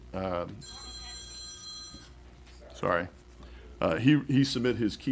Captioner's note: phone